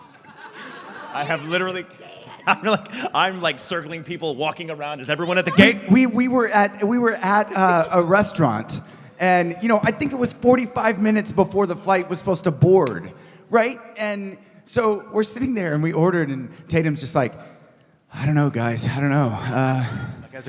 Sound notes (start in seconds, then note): 0.0 laughs